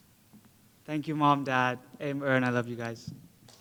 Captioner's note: foreign Language